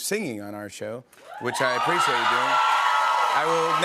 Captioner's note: cheers and applause